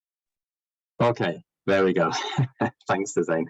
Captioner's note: laughs